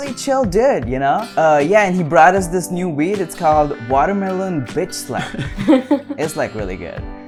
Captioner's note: laughter